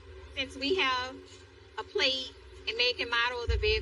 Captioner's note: TV static hic hisses